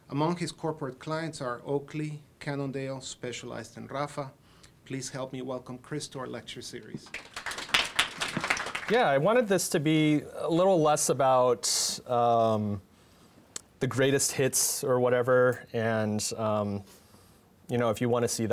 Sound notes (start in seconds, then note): 6.9 audience clapping